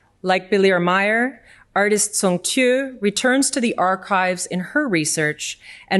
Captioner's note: none